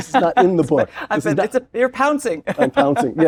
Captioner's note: laugh